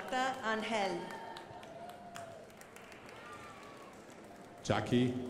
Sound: crowd applauding

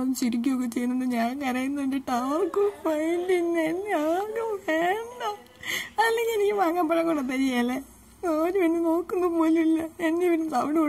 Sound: whimpers

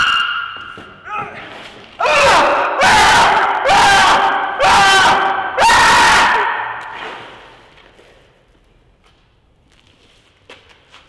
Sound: screams; repeatedly screaming

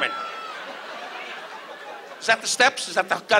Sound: audience laughs

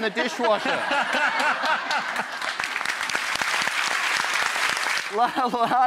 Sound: laughter; applause

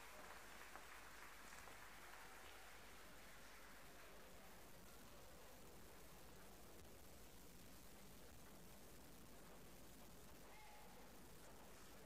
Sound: applause

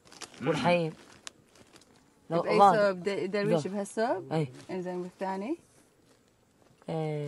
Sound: group speaking in foreign language continues

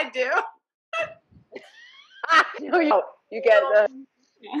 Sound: laughing

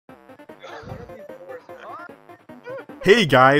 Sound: laughing

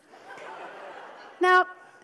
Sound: audience laughs

